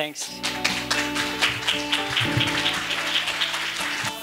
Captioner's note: applause